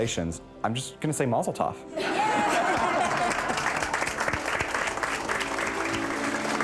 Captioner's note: applause